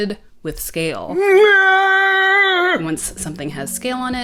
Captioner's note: comedic old man scream